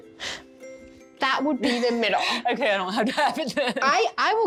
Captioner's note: sighs; laughs